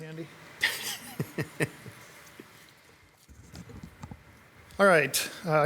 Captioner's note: participant chuckling